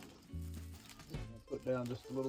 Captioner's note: oil sizzling